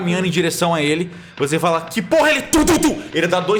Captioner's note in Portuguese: passos pesados